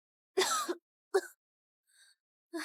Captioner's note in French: Tousse